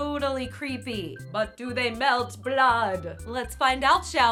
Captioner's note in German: Dracula Stimme